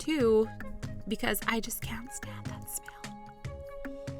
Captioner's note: whispers